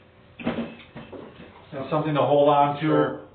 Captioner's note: chair thudding